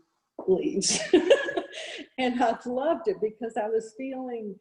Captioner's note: laughing